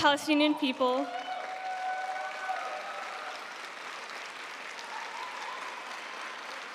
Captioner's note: audience cheering and applauding